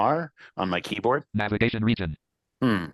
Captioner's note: computer voice